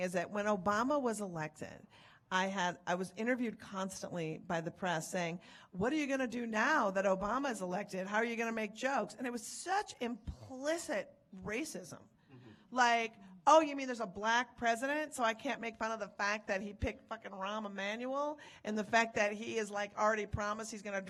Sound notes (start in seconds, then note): none